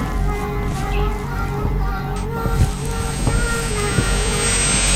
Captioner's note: crying